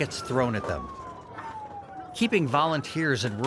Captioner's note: sirens blaring